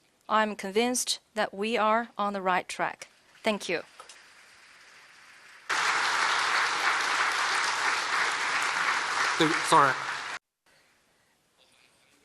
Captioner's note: applause